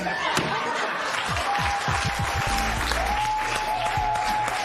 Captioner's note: laughter, cheers and applause